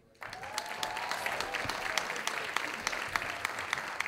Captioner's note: audience applauding